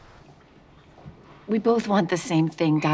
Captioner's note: chemicals bubbling